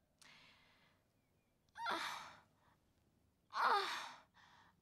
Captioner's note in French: cris de jouissance